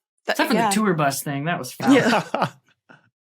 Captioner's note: laughs